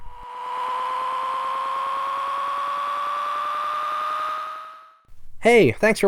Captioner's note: high pitched engine noise